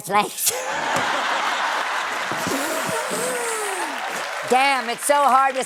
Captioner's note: balloon squeaking